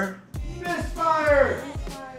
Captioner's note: Distant Weak Misfire Chant